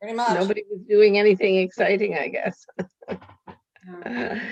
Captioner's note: chuckling